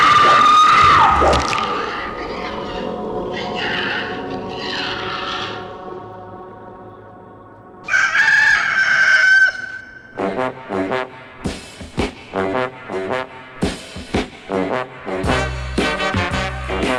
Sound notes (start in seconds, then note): 1.2 splatter; 7.8 rooster crowing; 10.2 jaunty jazz music